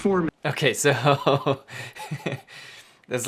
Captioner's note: laughing